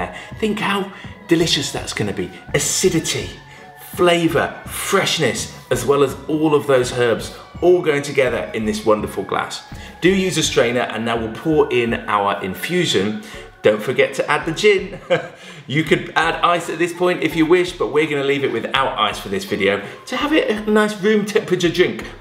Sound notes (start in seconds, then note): 14.8 laughs